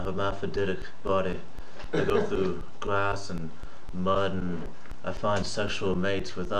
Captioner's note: laughs; laughs in background